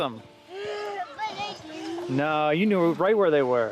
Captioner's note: panting